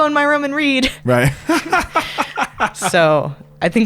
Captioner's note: laughs